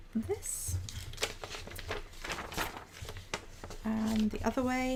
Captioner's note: paper rustling